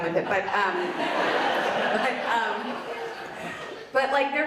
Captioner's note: audience laughs